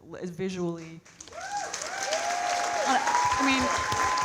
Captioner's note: audience cheering and clapping